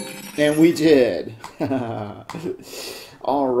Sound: successful chime; laughs

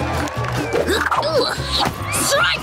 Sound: grunting

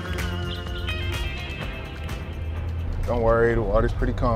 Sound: door creaks; car engine humming

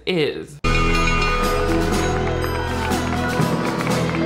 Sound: triumphant music; bell ringing; classmates applauding

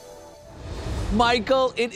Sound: graphics whoosh

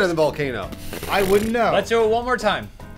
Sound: dismissive raspberry

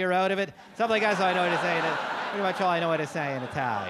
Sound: audience laugh

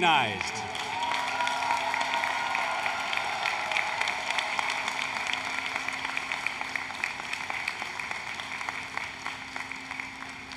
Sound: applause, Cheering

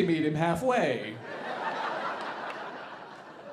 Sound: audience laughing

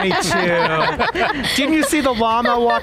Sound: panelists laugh

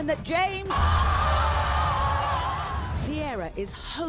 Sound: crowd cheering

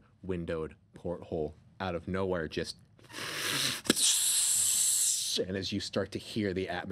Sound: hissing

